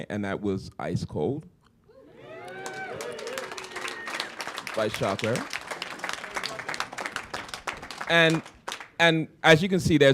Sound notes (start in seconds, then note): 2.2 applause